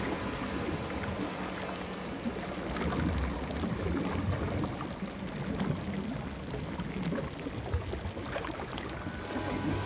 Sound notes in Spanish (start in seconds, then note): 4.4 sonido del ácido al hervir